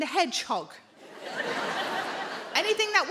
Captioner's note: audience laughing